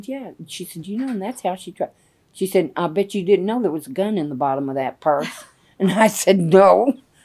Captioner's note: laughter